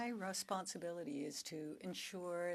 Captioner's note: speaking French